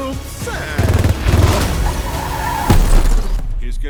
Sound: rapid gunfire; tires squealing

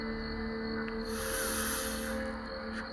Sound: sniffs

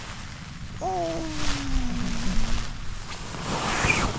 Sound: over-the-top yawning; morning groaning

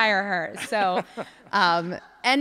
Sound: laughs

